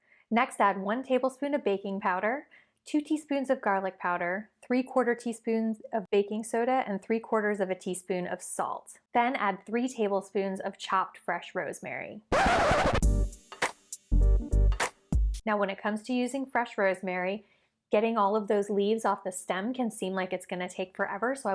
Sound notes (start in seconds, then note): 12.3 record scratching; 12.3 upbeat music